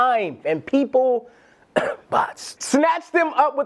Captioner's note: coughs